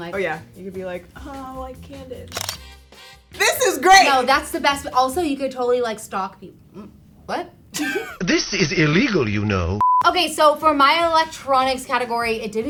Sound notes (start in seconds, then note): 2.2 camera shutter flips; 7.7 girl laughs